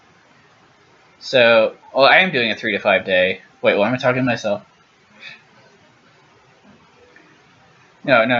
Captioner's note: pause